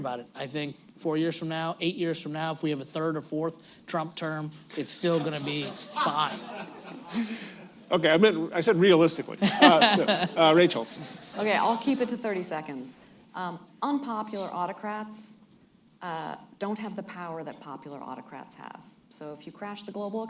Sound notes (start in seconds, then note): 6.6 laughter